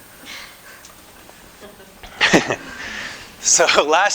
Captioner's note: laughter